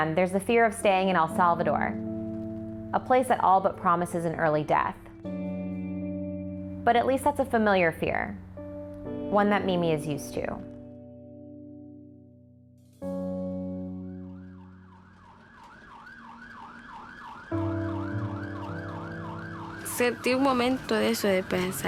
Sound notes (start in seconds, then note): 11.0 soft music; 13.9 siren blaring